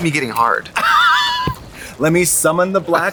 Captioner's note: Katya laughs